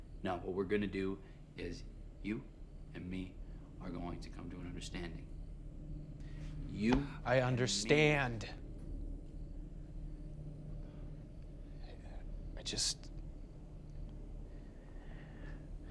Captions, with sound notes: No, what we're gonna do is you and me are going to come to an understanding. You and me-- - I understand! (tense music) (crickets chirping) I just (sighs), I can never do it.